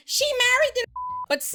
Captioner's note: beep